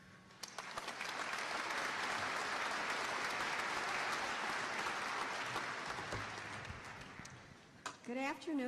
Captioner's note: applause